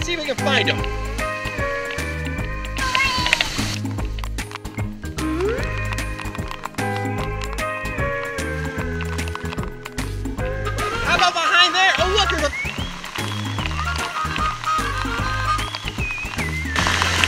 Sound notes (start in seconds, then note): 13.2 water splashing